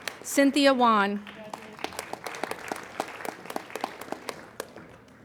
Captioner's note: applauding